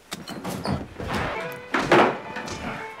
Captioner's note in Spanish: estruendo; aguja rayando